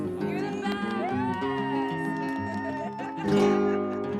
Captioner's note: cheers